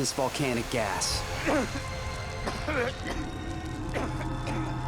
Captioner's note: coughing